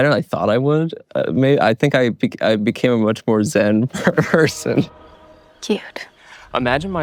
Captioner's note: laughs